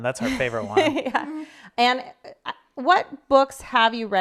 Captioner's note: laughing